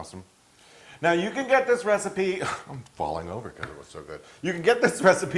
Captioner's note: laugh